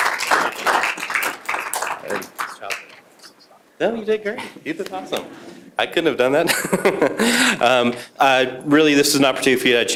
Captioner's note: applause